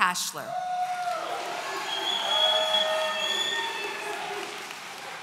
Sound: audience cheering

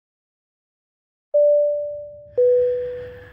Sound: passenger service unit beeps; heavy breathing

